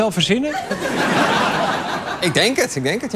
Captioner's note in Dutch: gelach